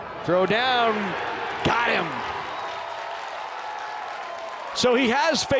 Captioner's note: crowd cheering